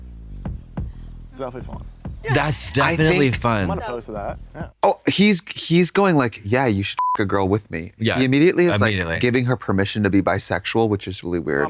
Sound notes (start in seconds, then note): 7.0 beep